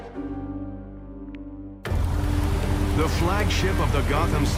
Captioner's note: waves breaking, ship whirring